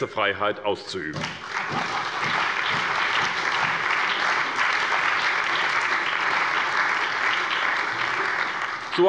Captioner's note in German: Beifall bei der SPD, der CDU, dem BÜNDNIS 90/DIE GRÜNEN und der FDP